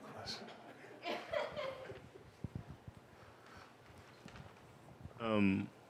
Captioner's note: laughter